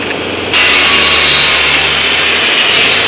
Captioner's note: grinder noise